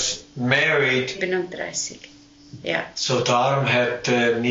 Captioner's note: speaking Swiss German